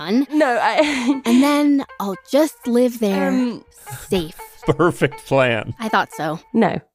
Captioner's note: laughs; laughs